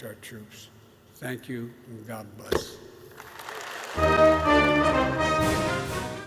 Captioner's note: applause